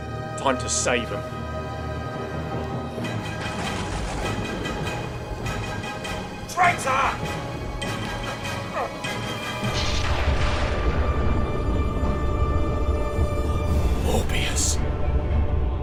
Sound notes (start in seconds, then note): 3.3 thunder sounds; 8.2 other groans as master restrains him; 9.6 thunder clashes